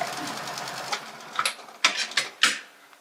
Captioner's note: clattering